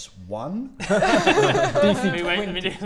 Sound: hopeful laughs

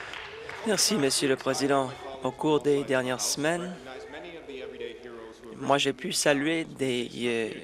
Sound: some Applause

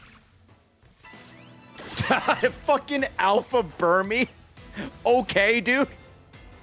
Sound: laughs

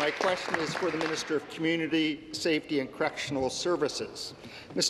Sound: applause

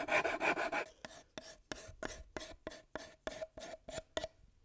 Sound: wood sanding

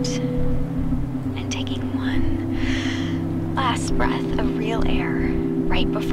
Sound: inhales

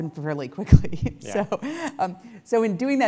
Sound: laugh

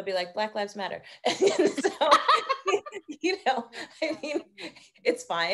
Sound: both laughing

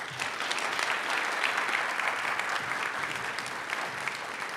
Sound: audience applauds

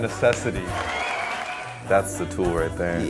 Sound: audience clapping and cheering; claps hands

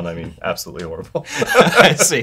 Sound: laughter

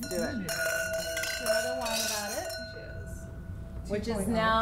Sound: glasses clinking

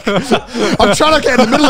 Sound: all laugh

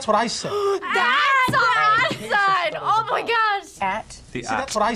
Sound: gasping

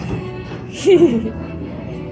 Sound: laughs A Little

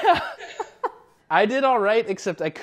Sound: laughter

